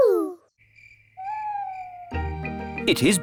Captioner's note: crickets chirping